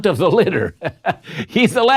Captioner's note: chuckles